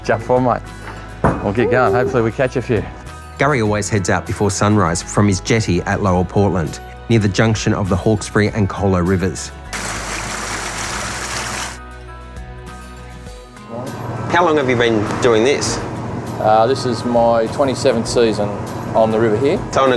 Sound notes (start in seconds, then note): 9.7 water splashing; 11.8 light playful music